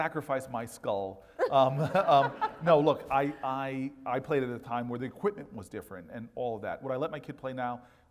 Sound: laugh

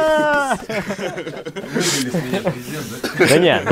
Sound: laughing

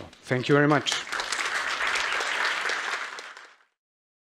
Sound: applause

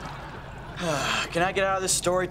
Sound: sighing

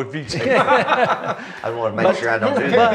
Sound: laughing

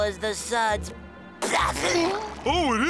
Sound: sneezing

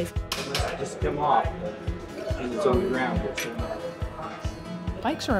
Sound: bike being repaired

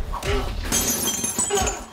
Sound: glass breaking

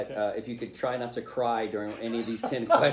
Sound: laughter

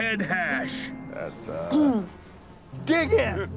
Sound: clears throat

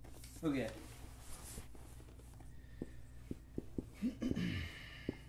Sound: clears throat

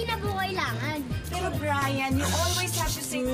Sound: Ester shushes

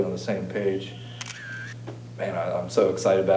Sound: click

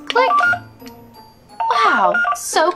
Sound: scanner beeping

